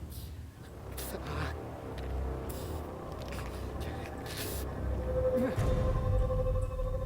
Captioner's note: Theo gasping and grunting in pain; eerie humming